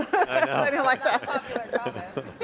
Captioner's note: panel laughs